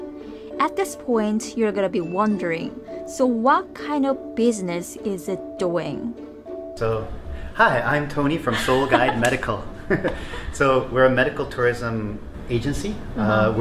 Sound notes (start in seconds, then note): 8.4 laughing